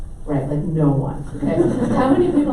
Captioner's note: audience laughs